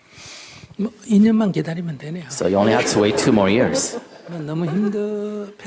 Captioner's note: questioner Laughter